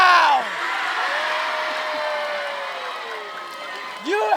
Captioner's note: applause